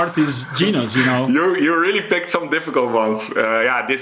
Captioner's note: chuckles